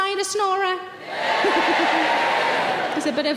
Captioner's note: audience cheering